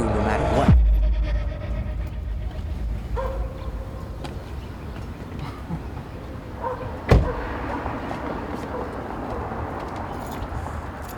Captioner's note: door opens